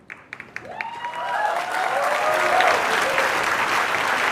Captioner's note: cheers and applause